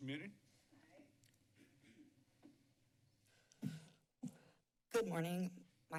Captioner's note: silence